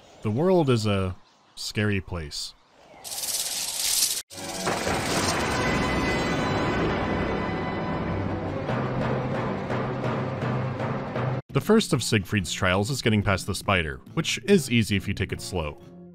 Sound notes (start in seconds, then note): 3.0 chittering; 4.4 dramatic death music